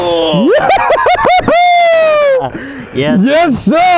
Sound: shouts

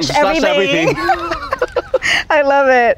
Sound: laughing

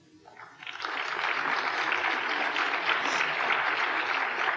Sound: applause

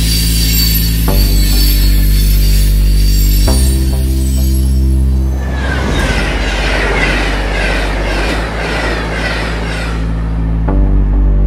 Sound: non-Diegetic Audio: Train rails screeching

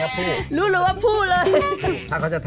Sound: laughing

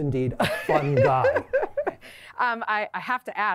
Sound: laughter

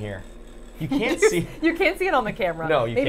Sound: Safiya laughing

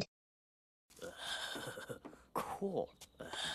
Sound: both laughing; Butt-Head laughing

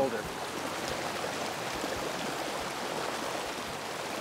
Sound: water rushing

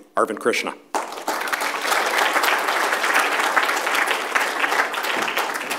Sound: applause

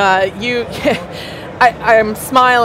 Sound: laughs

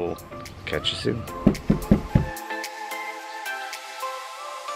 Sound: door knocking; bright music continues

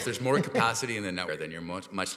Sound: chuckles

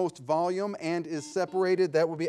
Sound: buzzer ringing

